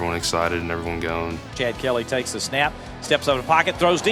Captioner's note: voiceover